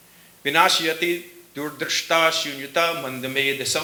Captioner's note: speaking sanskrit